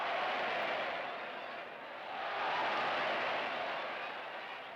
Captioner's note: applause